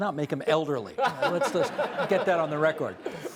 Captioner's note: laughter